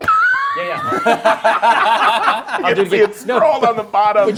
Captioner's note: group laughs